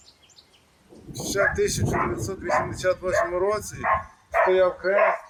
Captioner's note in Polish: po ukraińsku